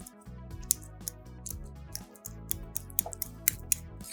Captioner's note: fork clicking